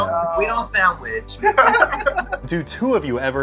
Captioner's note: laughter